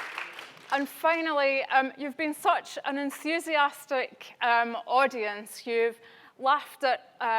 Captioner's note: applause